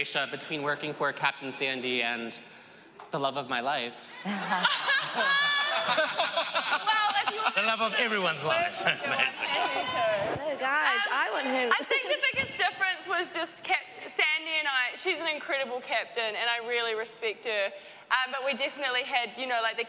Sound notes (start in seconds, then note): 4.2 laughing; 8.6 indistinct chatter